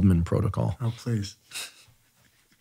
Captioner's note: laughs